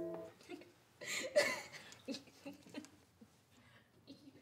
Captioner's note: both laughing